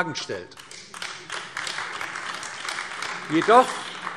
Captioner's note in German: Beifall AfD